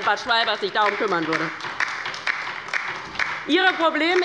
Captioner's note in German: Beifall bei der LINKEN